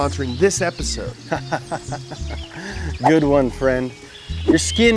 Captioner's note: laughing